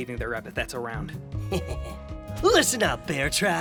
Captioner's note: evil giggle